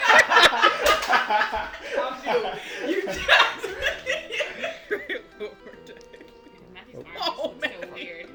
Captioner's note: laughter